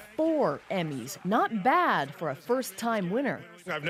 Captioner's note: applause